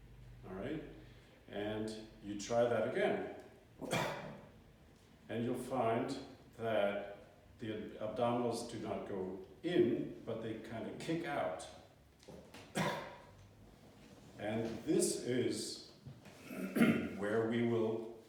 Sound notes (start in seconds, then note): 3.8 cough; 12.7 cough